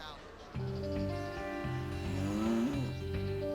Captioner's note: cow mooing